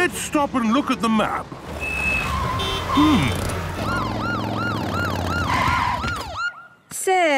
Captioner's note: honking, sirens